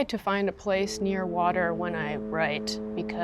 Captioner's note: foghorn booms